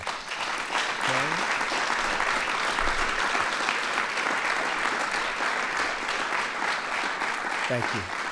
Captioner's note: applause